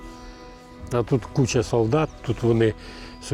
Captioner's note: russian